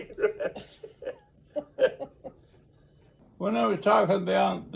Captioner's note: laughs